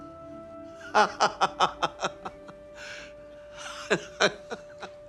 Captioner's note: Mr. Osborne laughing